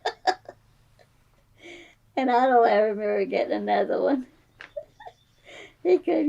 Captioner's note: laughs